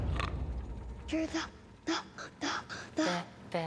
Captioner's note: snorts; stammering